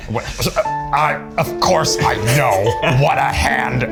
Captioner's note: laugh; in puppet voice